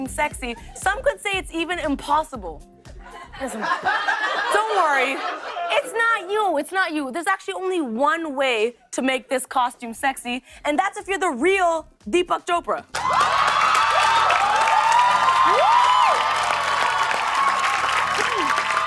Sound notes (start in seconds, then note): 3.0 laughter; 12.9 cheers and applause